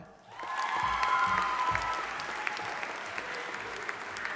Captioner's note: audience applauding